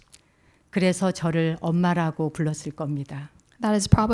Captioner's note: speaking in Korean